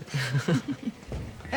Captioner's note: laughing